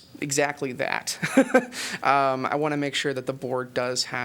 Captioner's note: laughter